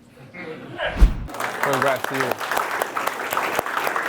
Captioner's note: clapping